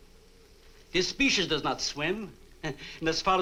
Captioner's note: chuckles